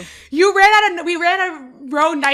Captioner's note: laughs